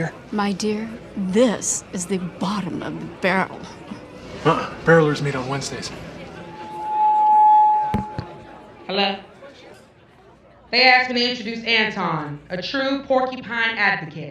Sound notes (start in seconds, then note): 6.4 microphone feedback